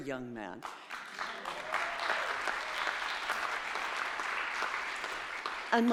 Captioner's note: audience applauding